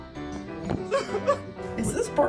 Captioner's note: sobbing